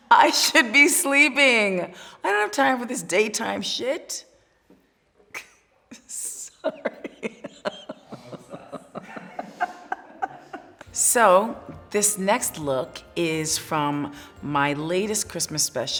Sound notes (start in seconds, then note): 5.9 laughing